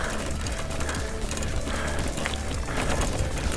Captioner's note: bike rattling